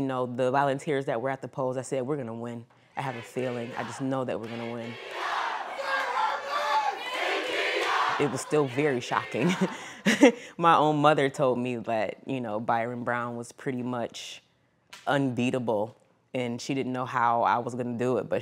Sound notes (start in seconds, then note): 4.4 crowd members shouting; 7.6 crows; 10.2 laughs